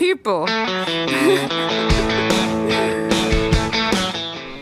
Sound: both chuckling

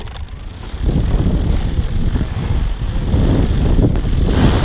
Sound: props whirring

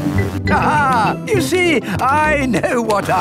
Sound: laughs

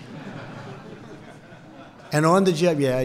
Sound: laughter

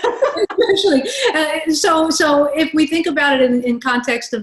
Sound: laugh

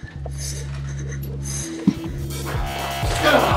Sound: panting; grunting

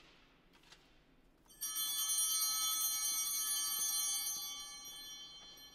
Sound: chimes ringing

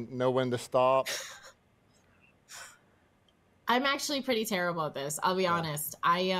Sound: chuckles

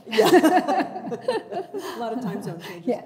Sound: chuckling

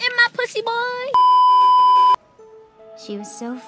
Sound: beeeeeep

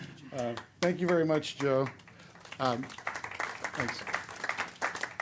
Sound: clapping

